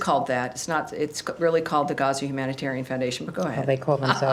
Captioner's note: laughter